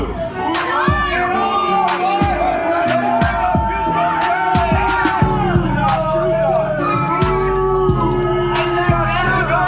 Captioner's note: crowd continues to boo